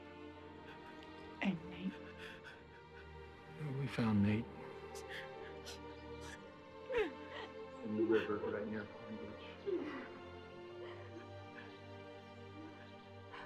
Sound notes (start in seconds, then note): 6.1 sobbing